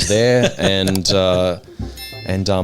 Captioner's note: laughing